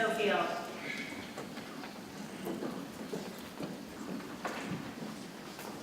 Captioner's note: people chattering softly